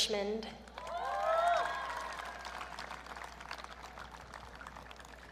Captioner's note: audience cheering